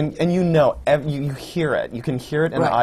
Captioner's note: laughter